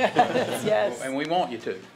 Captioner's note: laughter